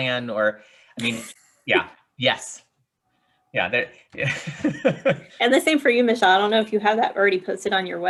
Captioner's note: laughter